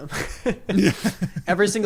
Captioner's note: laughs